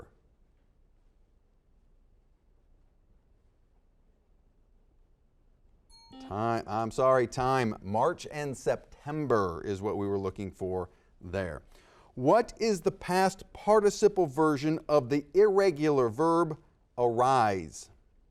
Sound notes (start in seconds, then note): 5.9 bell rings; 6.0 buzzer dings